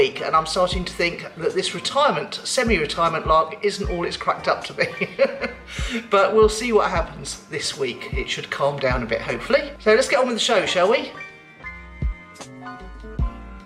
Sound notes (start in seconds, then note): 4.7 laughing